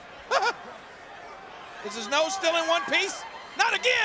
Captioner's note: chuckles